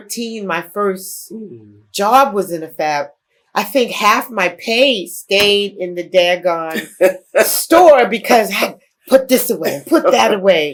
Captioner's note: laughter